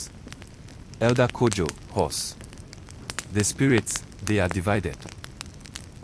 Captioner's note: hoarse